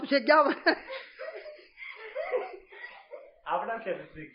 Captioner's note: laughter